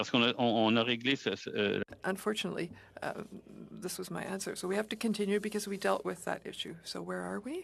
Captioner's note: speaking French